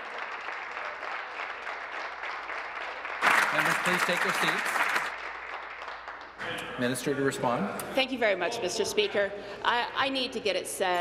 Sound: applause

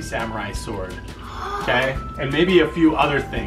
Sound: gasps

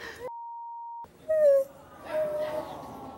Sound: cries

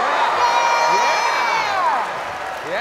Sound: audience cheering

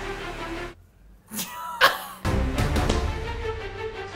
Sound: suspenseful music; chuckles

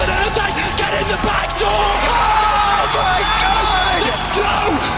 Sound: shouting; shouting, hoarse

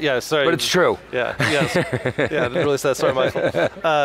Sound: laughs

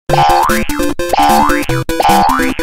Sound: Mario jumping

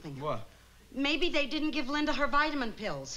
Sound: none

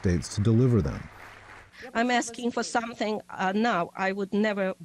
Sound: through translator

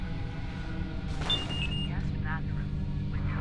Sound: alarm beeps

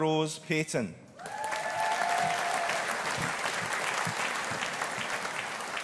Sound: audience applauding

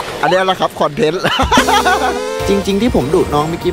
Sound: laughs

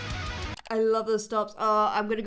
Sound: mouse clicks

